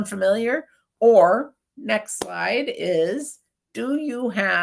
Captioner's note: claps hands